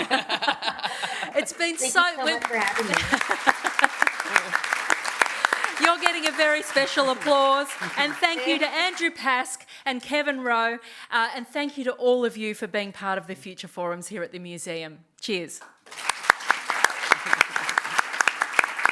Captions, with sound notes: Thank you so much for having me. [APPLAUSE] You're getting a very special applause. And thank you to Andrew Pask and Kevin Rowe. And thank you to all of you for being part of the Future Forums here at the museum. Cheers. [APPLAUSE]